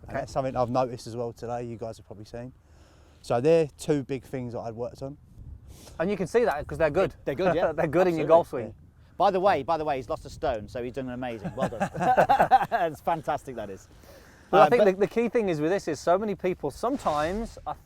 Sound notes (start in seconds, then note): 11.3 laughs